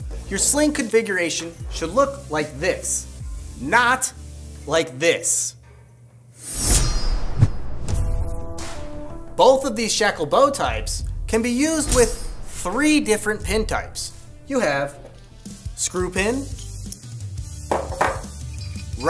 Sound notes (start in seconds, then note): 6.4 animation swishing; 7.8 upbeat rock music